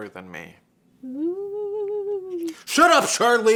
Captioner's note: moans